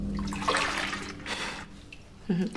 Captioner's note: chuckles